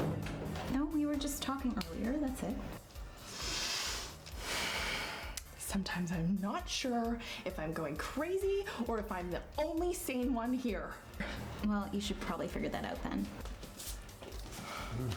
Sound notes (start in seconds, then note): 3.2 inhales Deeply